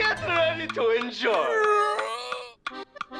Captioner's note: yawns